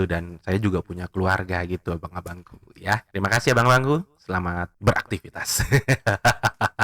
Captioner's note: laughs